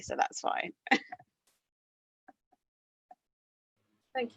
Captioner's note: chuckles